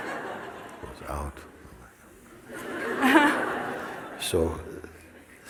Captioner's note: laughter